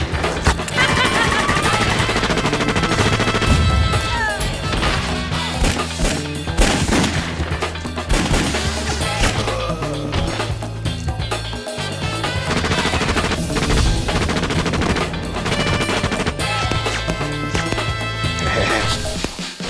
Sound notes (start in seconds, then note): 0.1 laughs; 6.4 gunshots; 10.3 body thud; 12.4 gunfire; 18.4 laughs